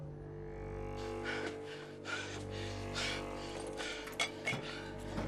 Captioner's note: panting